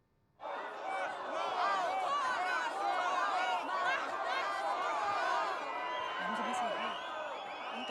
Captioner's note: chant